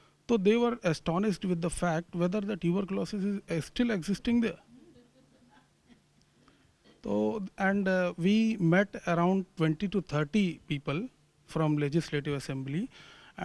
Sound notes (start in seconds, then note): 4.7 laughing